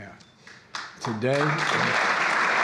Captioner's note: applause